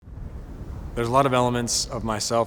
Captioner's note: wind gusting